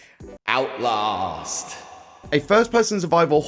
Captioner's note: reverb